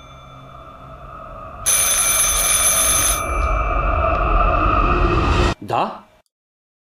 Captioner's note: phone rings and music becomes more dramatic